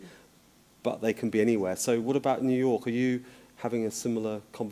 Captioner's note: none